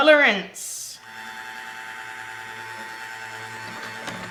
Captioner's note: blender motor